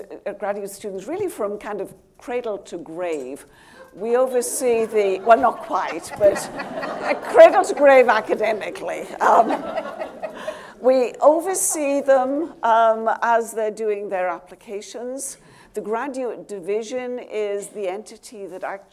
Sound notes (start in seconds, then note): 4.4 audience laughing